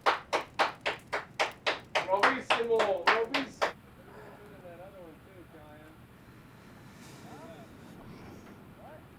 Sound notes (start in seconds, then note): 4.0 indistinct conversations